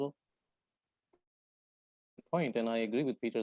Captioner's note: audio cuts out